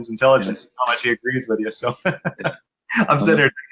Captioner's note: laughs